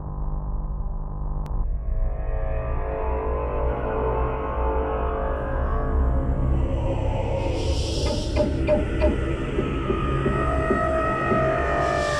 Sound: eldritch call rises, mixing low chants and metallic screeching

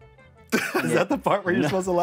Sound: laughs

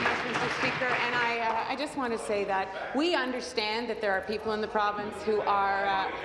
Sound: applause

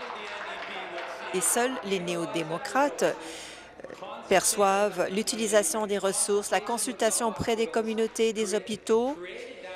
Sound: applause

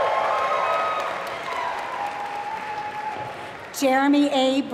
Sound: applause

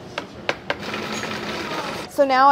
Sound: food processor whirring

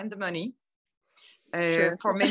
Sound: laughter

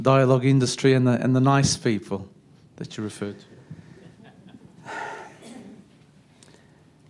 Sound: laughter

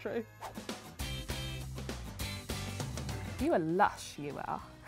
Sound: air whooshes; lively rock music

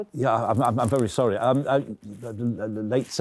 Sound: stammering

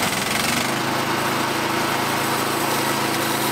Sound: engine Reves Up

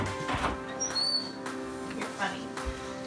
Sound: door squeaking

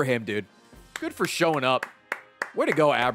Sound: claps

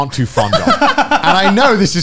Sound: men laughing

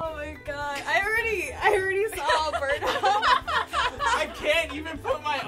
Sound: laughter

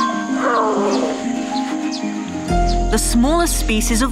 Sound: bear growling

